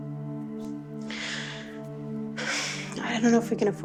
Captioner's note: Ally sighs